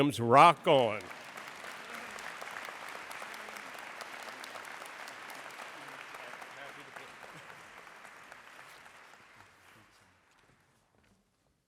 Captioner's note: applause